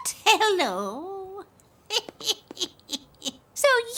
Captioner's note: laughs